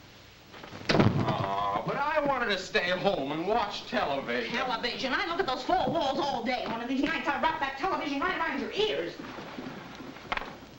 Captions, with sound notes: (door slams) - Aw, but I wanted to stay home and watch television. - Television! I look at those four walls all day. One of these nights, I'll wrap that television right around your ears!